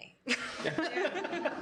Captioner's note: laughing